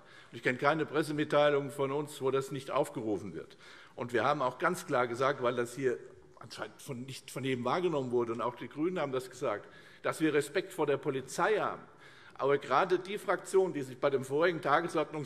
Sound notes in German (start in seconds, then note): none